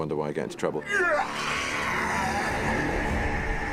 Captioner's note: growling